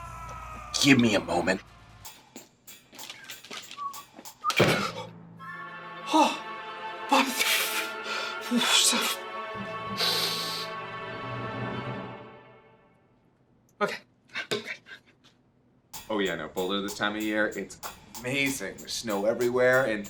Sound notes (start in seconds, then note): 3.0 whistles; 8.9 mutters and inhales